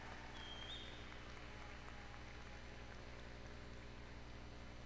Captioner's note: applause